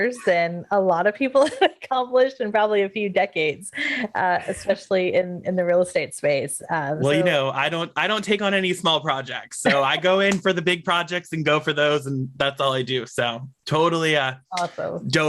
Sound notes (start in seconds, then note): 9.6 laughs